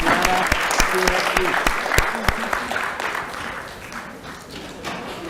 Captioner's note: applause